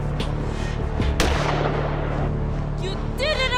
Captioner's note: gunshot